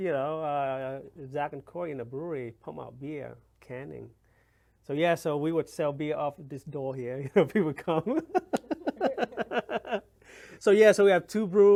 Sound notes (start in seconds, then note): 7.7 laughs